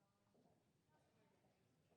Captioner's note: none